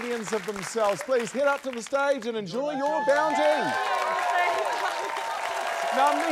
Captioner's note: cheering, applause